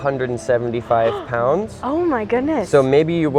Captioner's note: gasps